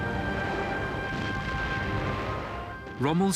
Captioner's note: bombs blasting